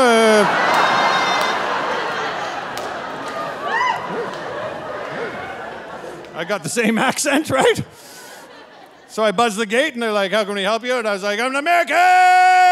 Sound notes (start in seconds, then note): 0.0 audience laughing and cheering; 6.4 laughing